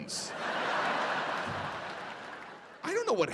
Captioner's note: audience laughing